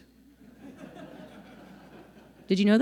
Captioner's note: people laughing